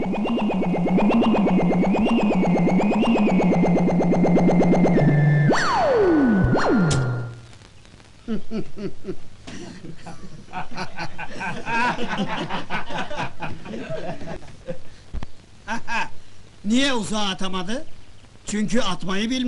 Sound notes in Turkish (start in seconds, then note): 0.2 ci̇ri̇t ses çikararak gi̇der; 5.8 gülüşürler